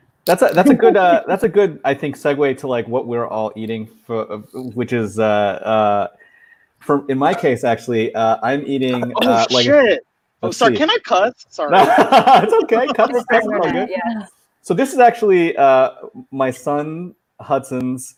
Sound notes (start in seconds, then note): 11.7 laughing